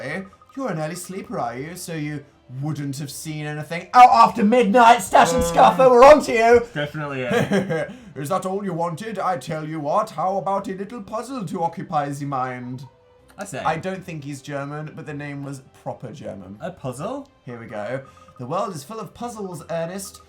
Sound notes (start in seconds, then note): 8.2 accented